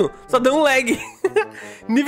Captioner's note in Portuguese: Risos